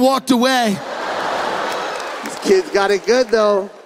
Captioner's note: audience laughing